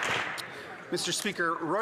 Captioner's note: some Applause